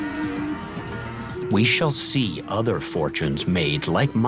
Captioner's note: cows mooing